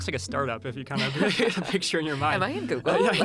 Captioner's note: laughing